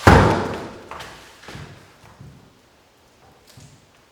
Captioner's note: hits side